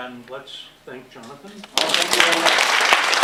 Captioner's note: applause